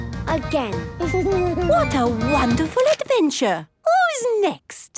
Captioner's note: Danny giggles